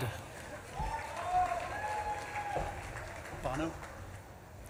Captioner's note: audience claps and cheers